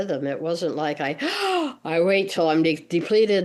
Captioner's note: gasping inhale